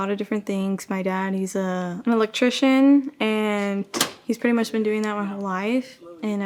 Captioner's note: click sound